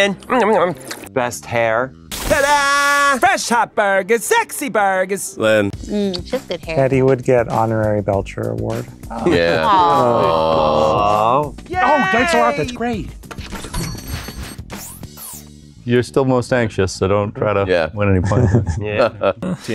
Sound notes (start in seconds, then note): 13.7 door bell chiming; 18.2 laughs